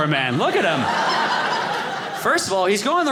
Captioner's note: audience laughing